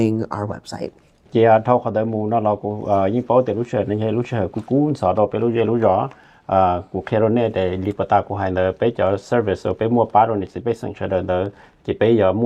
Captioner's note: Speaking in Hmong